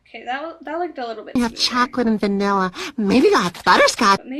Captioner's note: gasp